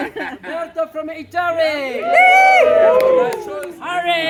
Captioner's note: laughter; cheering